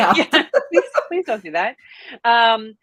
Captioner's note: laughing